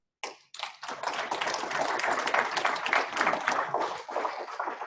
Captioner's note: students clapping